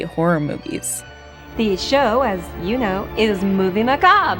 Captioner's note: soundbite of tv show, "elvira's movie macabre"